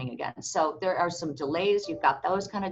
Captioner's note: computer notification rings